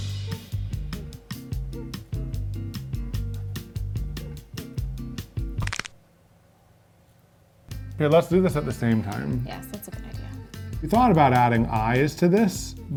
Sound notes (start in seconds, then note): 0.0 upbeat music; 5.6 crayon snapping